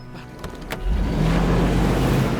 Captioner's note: motor running